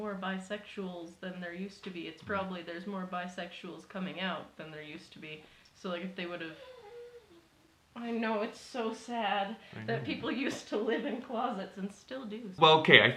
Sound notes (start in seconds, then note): 6.4 dog whimpering